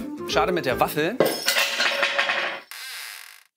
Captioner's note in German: Im Hintergrund scheppert es